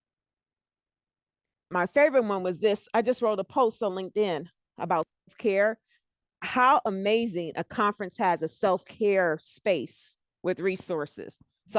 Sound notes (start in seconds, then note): 5.1 breaking voice